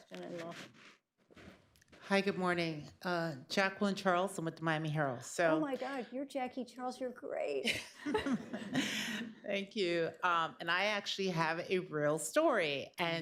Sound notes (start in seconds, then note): 7.6 laughter